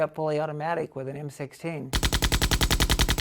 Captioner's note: machine gun rattling